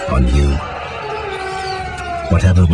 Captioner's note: man screaming in agony